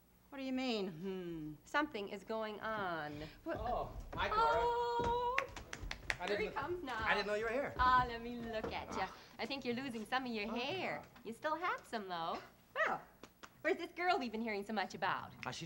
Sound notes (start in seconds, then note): 5.0 clapping